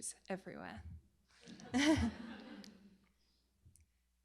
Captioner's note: laughter